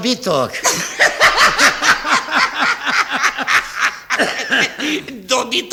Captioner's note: they both laugh heartily